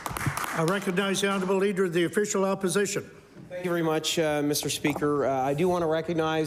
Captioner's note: applause